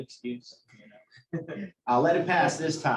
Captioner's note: laughter